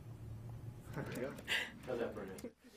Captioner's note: laughing